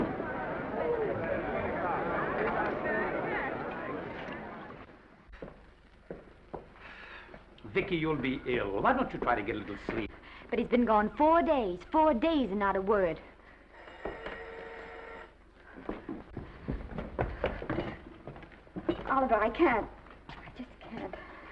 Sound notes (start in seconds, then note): 0.0 all chattering; 13.7 phone ringing; 15.4 footsteps approaching